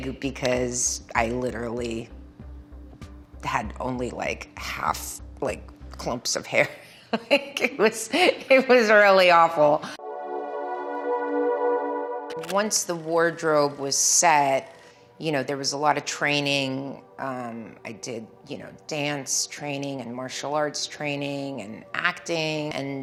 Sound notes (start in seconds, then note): 7.0 Milla laughing nostalgically; 9.9 gentle string music